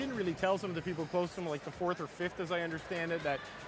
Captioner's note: none